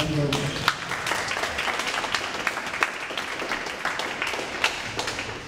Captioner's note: audience applauds